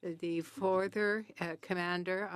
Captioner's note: speaking French